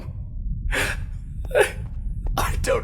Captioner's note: cries